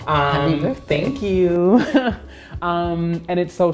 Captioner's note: laughs